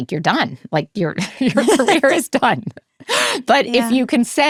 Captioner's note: both laughs